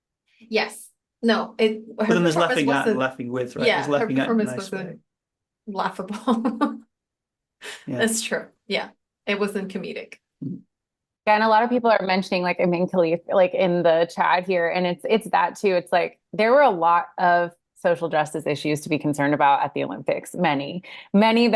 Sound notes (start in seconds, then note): 7.5 laughs